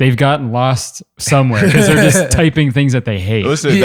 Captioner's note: laughter